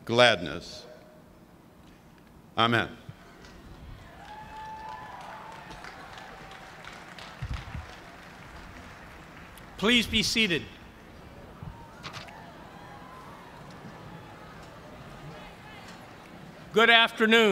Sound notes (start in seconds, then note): 3.4 cheers and applause